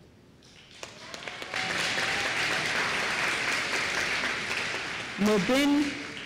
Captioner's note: applause